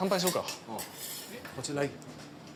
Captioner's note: man speaks Japanese